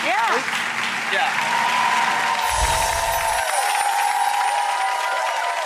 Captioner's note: audience cheers